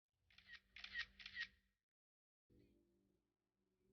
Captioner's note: camera shutter clicking